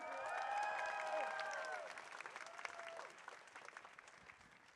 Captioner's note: audience cheering